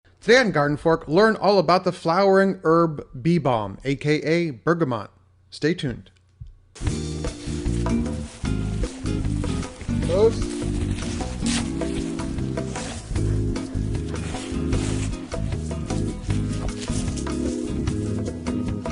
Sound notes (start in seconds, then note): 7.0 upbeat music; 13.2 dogs panting